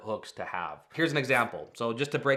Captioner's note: screen rustling